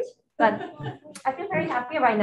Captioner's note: attendees laughing